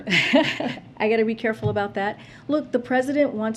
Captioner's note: laughs